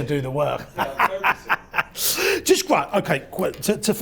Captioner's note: laughs